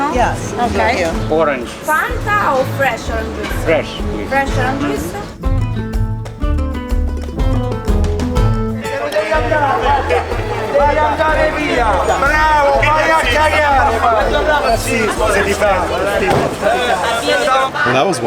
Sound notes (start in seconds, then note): 6.7 lively music; 10.3 man shouting